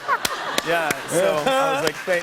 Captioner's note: laughter and applause